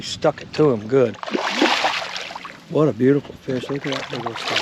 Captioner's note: fish splashing